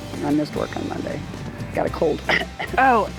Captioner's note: cough; cough cough